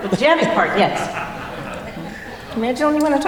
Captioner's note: laughter